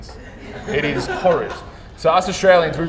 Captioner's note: audience laughing